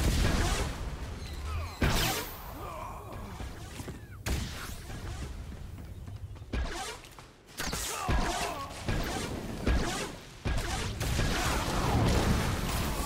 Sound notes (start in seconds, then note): 2.6 gunshots